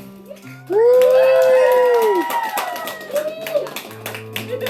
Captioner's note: cheering